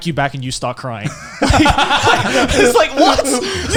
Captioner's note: laughing